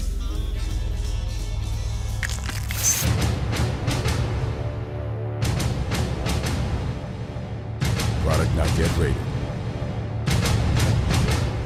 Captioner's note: sizzling